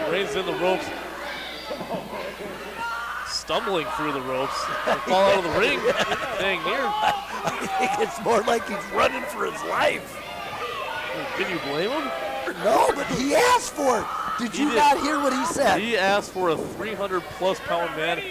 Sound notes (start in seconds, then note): 4.4 crowd member and laugh